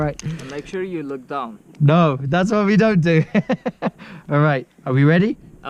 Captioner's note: laughs nervously